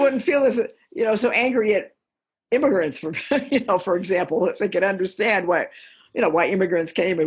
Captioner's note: laughter